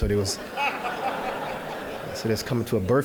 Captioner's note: audience laughing